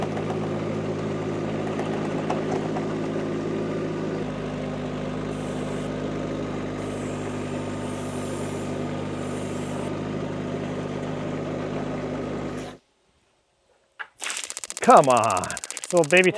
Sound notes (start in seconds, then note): 0.1 engine revving; 6.3 engine revving; 14.2 board clicking; 14.2 water splashing